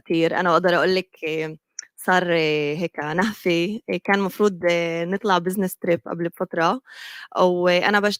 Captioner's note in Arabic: لغة أجنبية